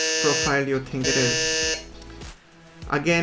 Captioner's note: buzzer buzzing